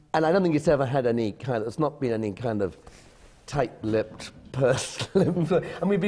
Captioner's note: laughs